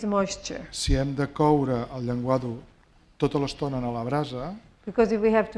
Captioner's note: speaking spanish